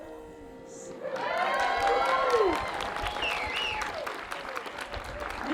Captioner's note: cheering